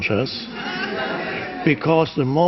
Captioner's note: crowd laughs